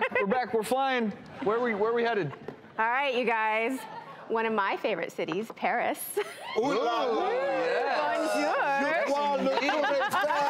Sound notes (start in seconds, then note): 6.1 audience cheering; 9.3 laughing; 9.4 speaking in foreign language